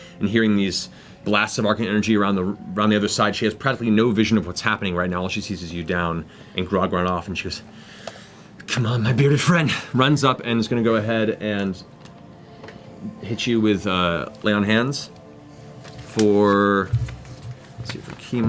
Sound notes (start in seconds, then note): none